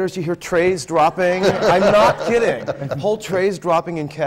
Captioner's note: laughter